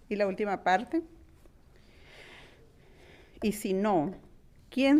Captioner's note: speaking in foreign language